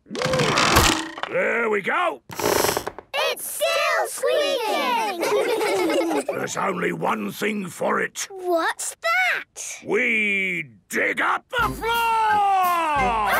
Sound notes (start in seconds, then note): 2.5 squeaks